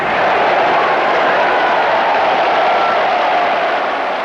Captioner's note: crowd roaring